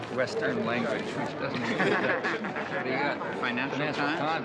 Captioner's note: man chuckling